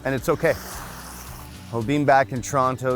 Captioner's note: water splashes